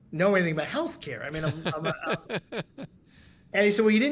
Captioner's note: laughing